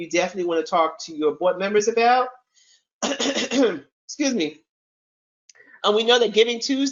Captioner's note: clears throat